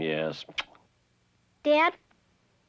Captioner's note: kisses